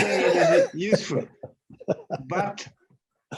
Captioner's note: laughs